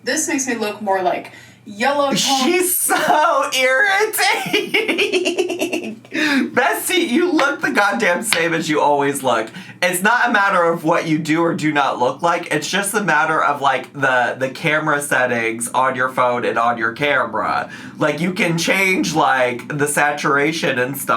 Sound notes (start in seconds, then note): 4.2 laughs